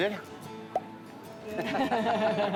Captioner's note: pops cheek